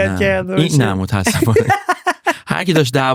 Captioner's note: laughs